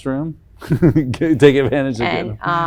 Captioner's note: laughs